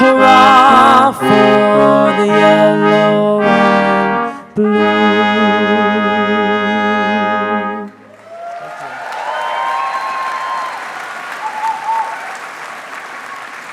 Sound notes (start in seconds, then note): 8.0 audience cheering